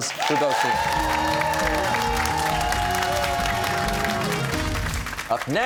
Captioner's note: cheers and applause